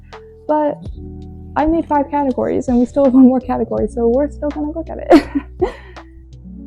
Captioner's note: laughs